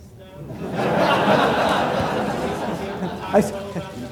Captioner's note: laughter